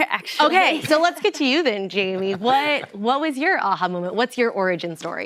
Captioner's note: laughter